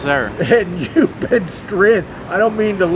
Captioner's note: chuckling